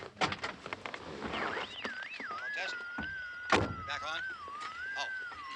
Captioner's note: radio: frequency squealing